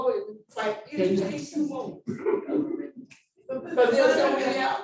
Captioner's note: laughing